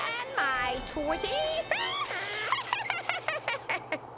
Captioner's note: laughing wickedly